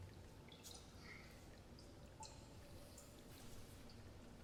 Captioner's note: water plinking